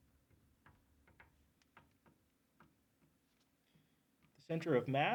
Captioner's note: marker clacks